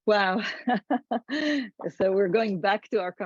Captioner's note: laughs